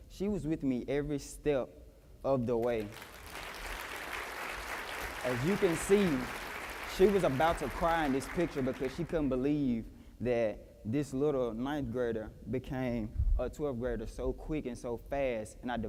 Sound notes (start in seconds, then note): 2.6 applause